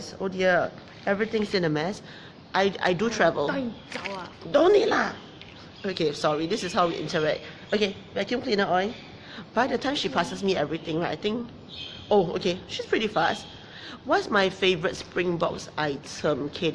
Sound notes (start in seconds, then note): 4.2 speaking in foreign language